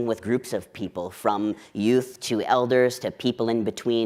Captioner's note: none